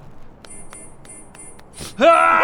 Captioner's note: failed blink noises